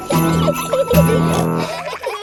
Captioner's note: children giggling; peppa snorts